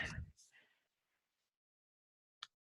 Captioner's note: silence